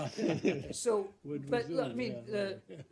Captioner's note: laughter